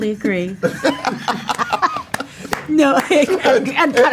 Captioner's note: both laughs